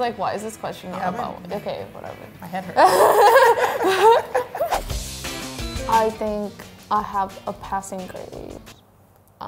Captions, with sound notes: "Why is this question not about women?" Okay, whatever. - My head hurts. (both laugh) - I think I have a passing grade.